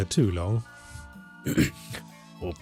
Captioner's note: clears throat